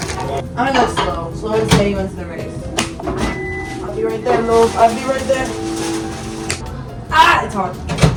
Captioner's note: british accent